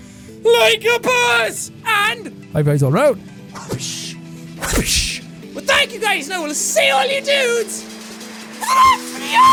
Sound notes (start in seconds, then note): 1.8 whispers; 4.6 wapooosh